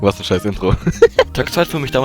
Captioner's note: laugh